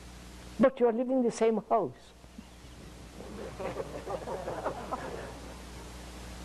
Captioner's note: laughter